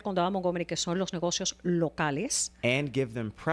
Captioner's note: Hablando ingl\s